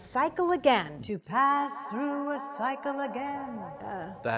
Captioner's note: echo: “To pass through a cycle again”